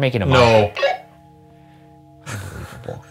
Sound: walkie beeps

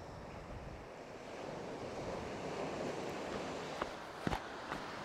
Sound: ocean waves thrashing

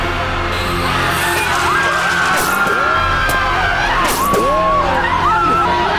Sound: student screams; students screaming

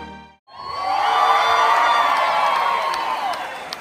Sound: crowd cheers!

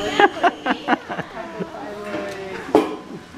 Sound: laughing

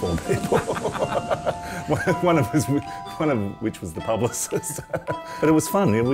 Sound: both laugh

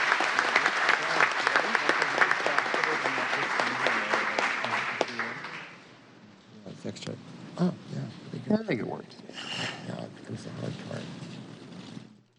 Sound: applause

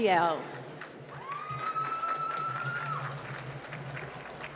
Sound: applause

